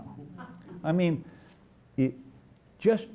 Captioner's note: laughter